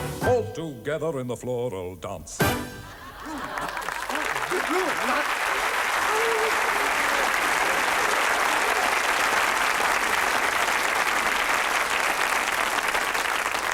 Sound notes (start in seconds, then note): 2.8 audience laughs; 7.9 audience applauds